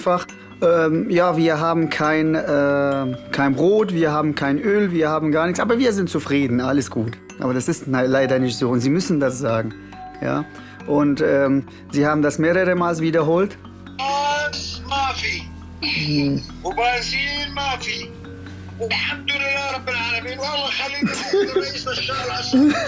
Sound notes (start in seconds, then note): 13.5 in Arab